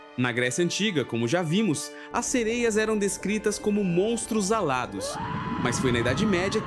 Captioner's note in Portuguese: grito